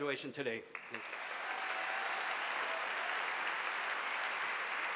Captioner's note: audience applauding